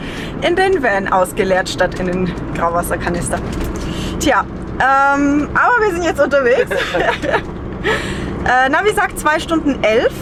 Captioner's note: laughter